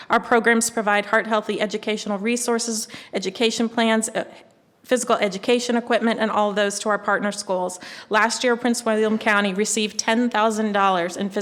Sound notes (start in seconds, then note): none